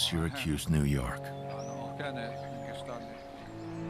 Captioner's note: man continues speaking